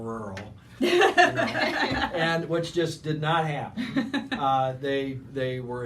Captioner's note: laughing